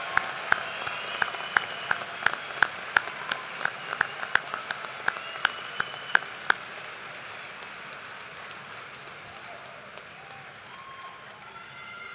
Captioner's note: cheers and applause